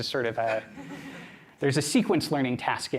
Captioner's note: laughter